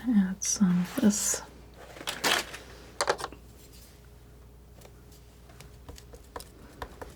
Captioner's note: scratching